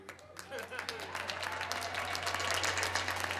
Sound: applause

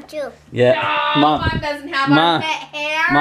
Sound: laughing

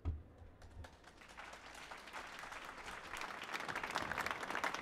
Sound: applause

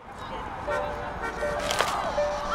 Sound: car Honks

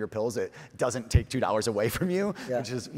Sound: chuckles

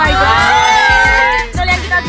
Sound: cheers

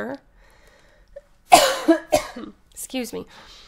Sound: coughs

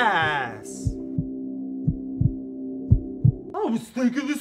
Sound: heart thuds; slurred

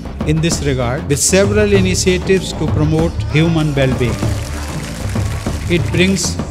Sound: applause

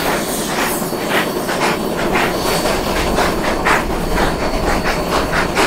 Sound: loud chugging

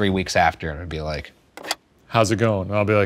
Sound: telephone click

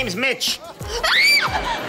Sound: screaming

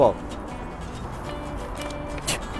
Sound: digging

